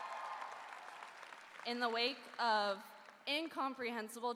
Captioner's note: cheering